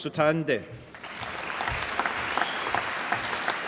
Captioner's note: applause